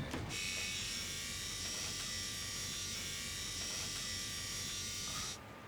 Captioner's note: shaver noise